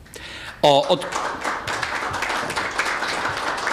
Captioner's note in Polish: oklaski